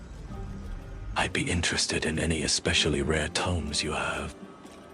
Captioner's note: whispers